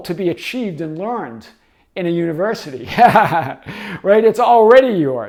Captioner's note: laughing